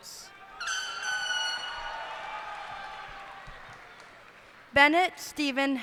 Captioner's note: cheers and applause